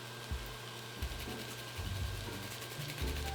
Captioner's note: grating